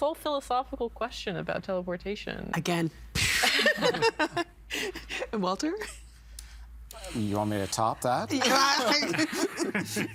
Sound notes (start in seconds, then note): 2.7 making explosion sound; 8.5 all laughing